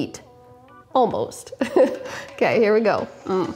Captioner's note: laughs